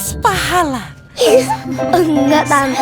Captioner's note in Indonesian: tertawa